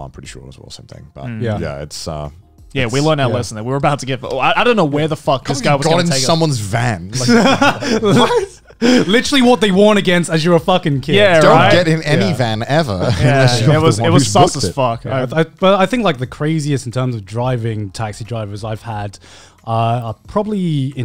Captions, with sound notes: I'm pretty sure it's all the same thing, but yeah, it's. - Yeah. - Yeah we learned our lesson and we were about to get. I don't know where the fuck this guy was gonna take us. - Couple of you got in someone's van. (laughing) - Literally what they warn against as you're a fucking kid. - Yeah, right? - Don't get in any van ever, unless you're the one who's booked it. - Well I think like the craziest in terms of taxi drivers I've had are probably in China.